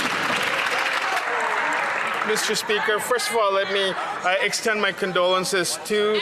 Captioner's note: some Applause